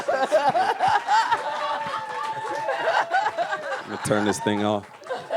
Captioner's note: audience laughs